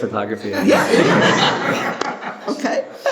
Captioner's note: laughs